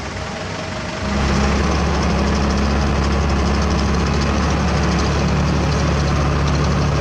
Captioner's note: engine Rev